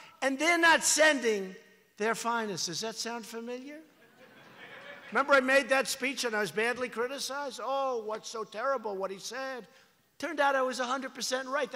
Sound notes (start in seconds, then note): 3.9 laughter